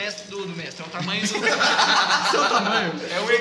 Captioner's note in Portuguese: Risos